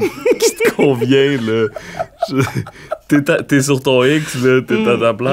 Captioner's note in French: éclat de rire